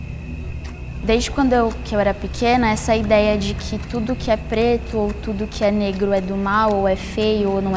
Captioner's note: young voice